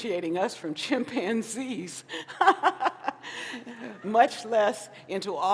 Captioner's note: laughs